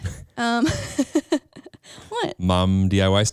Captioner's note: laughs